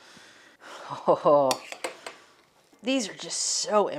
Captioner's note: chuckles